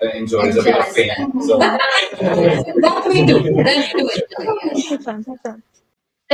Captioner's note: laughter